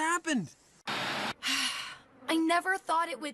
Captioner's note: Gwen Sighing